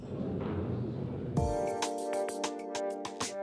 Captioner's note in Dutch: publiek mompelt; vrolijke muziek